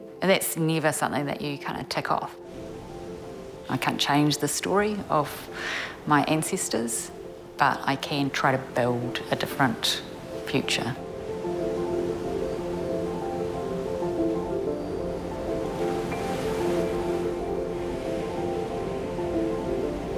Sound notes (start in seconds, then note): 12.0 soothing music; 13.8 waves crashing